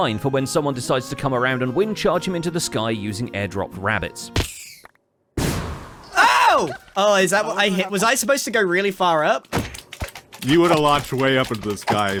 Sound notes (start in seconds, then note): 4.2 many rabbits dying; 4.2 thunk; 5.4 wind bursts